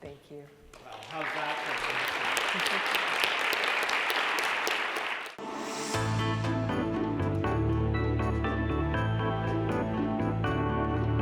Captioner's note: applause